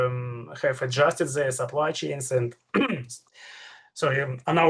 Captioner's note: clears throat